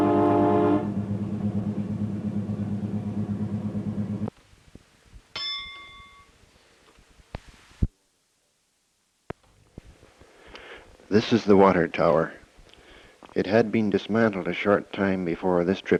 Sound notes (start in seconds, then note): 5.3 bell Sound